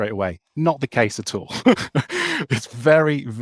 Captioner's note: laughs